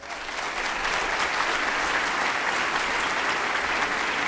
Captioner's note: applauding